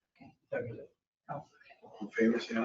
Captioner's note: people chattering indistinctly